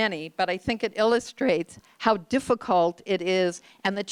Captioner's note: none